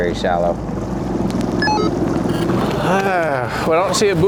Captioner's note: radio clicks